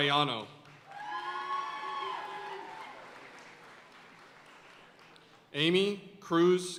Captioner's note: audience cheering and applauding